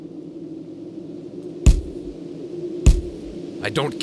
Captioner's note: punches